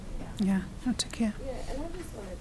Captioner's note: voice muffled